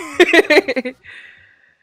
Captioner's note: laughs